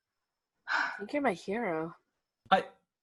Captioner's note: HARPER sighs